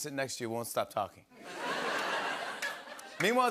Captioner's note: laughter